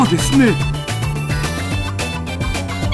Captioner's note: blowing with smile